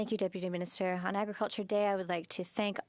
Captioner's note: speaking French